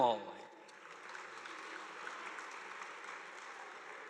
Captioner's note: audience applauding